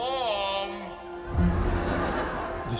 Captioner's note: laughter